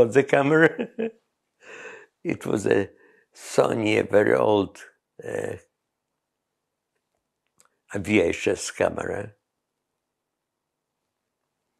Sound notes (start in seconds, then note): 0.4 laughs